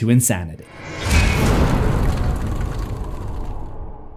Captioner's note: impact